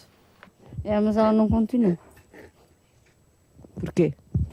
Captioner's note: speaking portugese